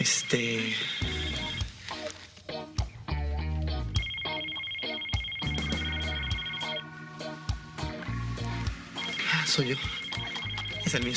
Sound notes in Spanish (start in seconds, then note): 1.4 Suena un celular